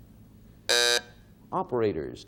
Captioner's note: buzzer sounding off